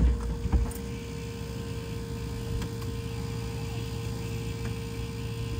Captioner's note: fuel pump buzzing